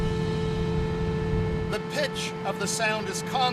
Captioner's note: steady blast of the horn